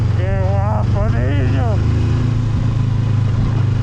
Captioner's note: excitement noises